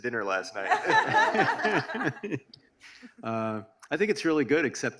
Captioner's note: audience laughs